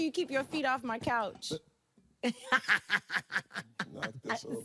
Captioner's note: laughing